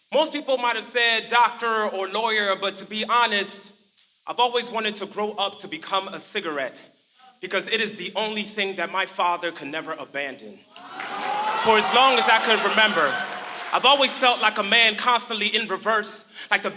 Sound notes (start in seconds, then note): 10.7 crowd cheering